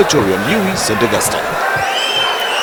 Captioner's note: wild applause and cheering for 22 seconds